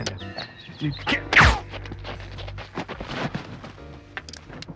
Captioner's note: gun fires